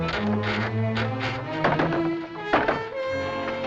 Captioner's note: rattling